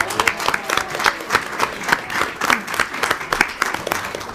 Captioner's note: audience applauding